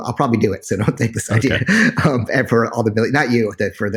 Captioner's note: laughs